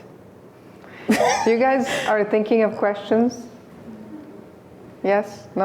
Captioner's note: laughs